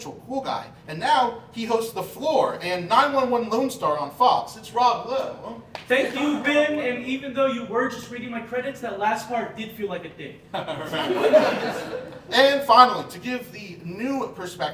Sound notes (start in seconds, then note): 10.5 audience Laughing